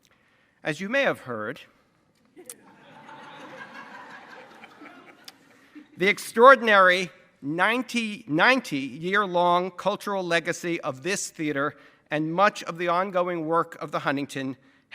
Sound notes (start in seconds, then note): 2.4 audience laughs